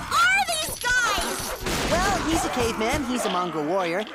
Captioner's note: object shatters